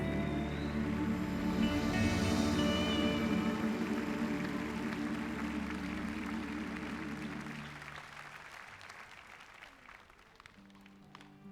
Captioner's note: applause